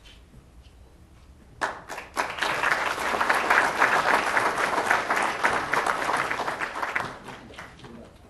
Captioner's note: applause